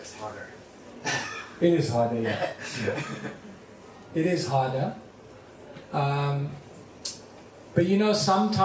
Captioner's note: laughter